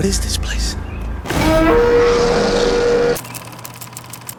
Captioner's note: roaring